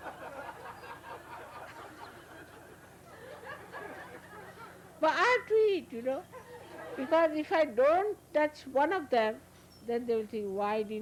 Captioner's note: laughter